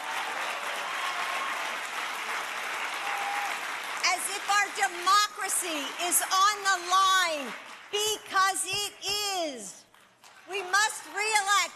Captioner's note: applause